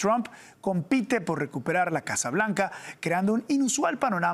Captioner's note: HABLAN EN INGLéS